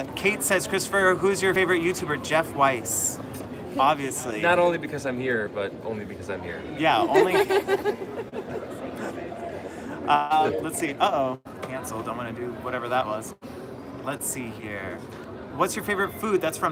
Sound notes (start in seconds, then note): 7.1 laughter